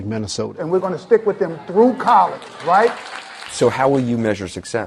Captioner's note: clapping